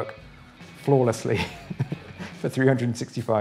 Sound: laughs

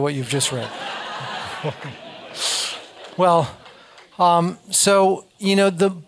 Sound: laugh

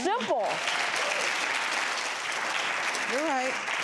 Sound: audience applauds

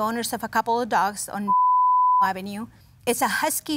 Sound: beep

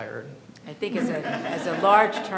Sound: audience laughs

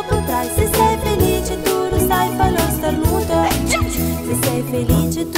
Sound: achoo

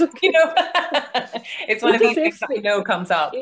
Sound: laughing

